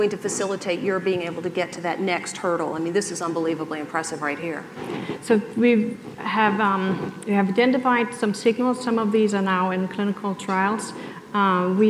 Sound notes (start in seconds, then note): none